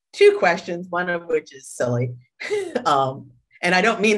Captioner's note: laughter